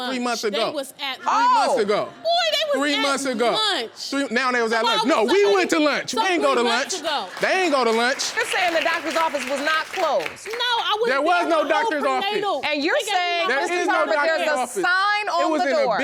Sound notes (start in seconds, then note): 7.3 clapping